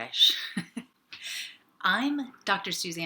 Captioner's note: laughing